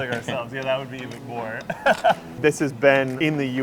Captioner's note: chuckles